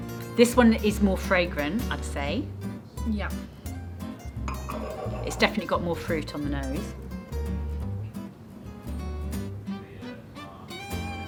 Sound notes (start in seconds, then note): none